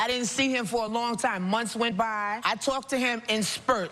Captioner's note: none